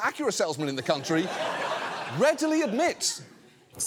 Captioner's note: audience laughs